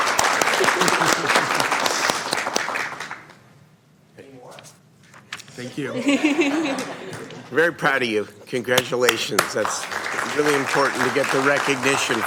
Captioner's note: applause